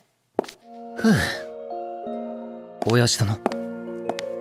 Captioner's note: sigh